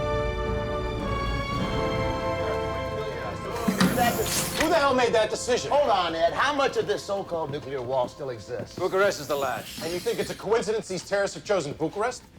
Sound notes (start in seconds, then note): 3.6 all arguing